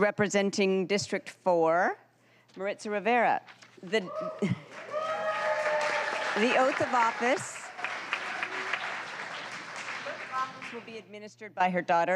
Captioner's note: applause